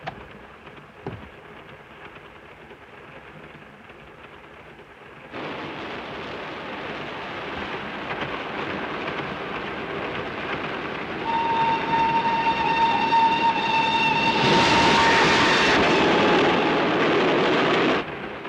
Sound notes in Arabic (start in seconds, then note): 0.2 صوت خشخشة القطار; 5.5 هدير القطار; 11.2 صافرة القطار; 14.4 هدير القطارات; 18.2 صوت خشخشة القطار